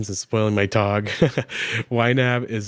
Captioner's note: chuckles